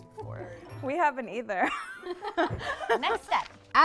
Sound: laughs

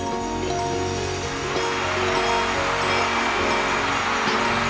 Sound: crowd cheering

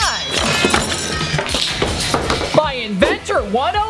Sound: knives clanking

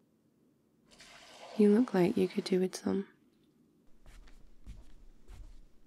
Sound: water in glass; footsteps

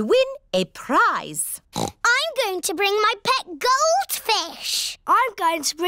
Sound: oinks

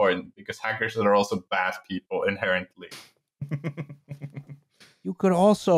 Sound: small laugh

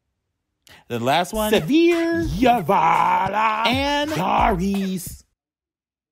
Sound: speaking in foreign language

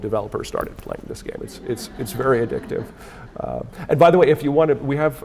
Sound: audience laughing

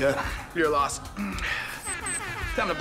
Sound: alarm ringing

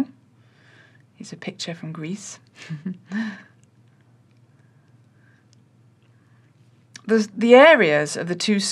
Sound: laughter

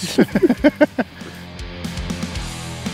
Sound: both laugh; upbeat guitar music

